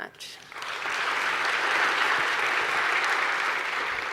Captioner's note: applauds